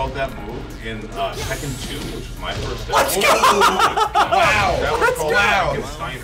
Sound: laugh

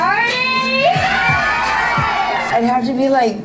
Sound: contestants cheer

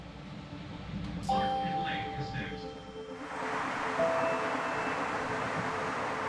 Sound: train announcer speaks faintly

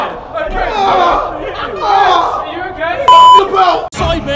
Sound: group chattering

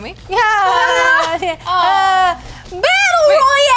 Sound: cheers

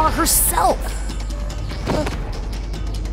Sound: grunting

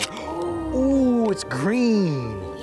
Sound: both gasping

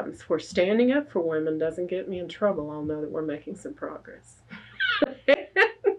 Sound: laughs

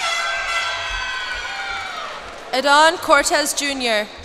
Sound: cheers and applause

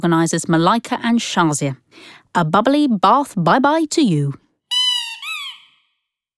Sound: sound of a rubber duck squeaking

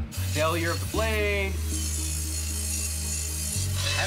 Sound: grinder whirring

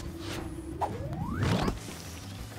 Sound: swoosh

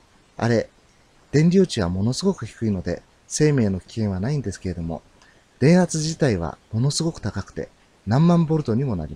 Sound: electrostatic discharge

